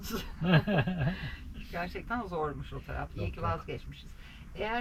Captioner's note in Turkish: kahkaha